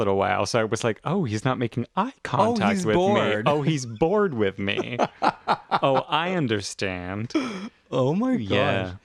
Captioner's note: laugh